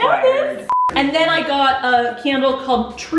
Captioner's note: beeping